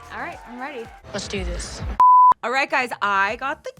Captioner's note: beep